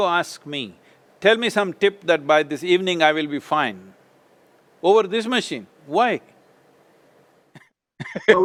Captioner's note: laughs